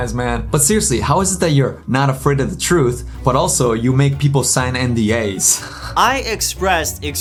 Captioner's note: laughs